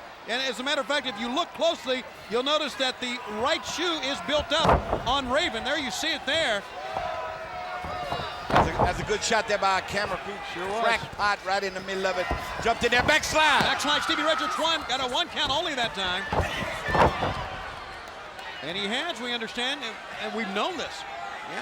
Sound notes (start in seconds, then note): 5.7 body thudding; 16.2 blows thudding; 16.2 body thudding